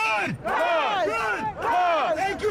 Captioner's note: all chanting